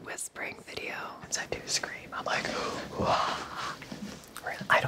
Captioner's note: whisper yells